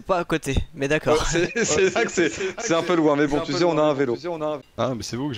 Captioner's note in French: rire